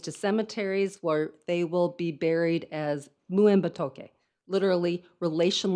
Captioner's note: speaks in foreign language